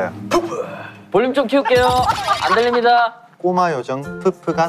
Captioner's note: laughing out loud